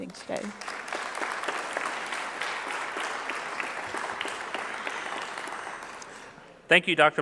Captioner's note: clapping